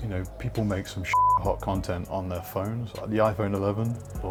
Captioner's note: beep